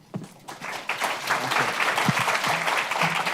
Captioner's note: applause